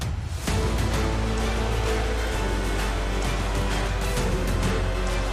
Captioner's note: loud engine revving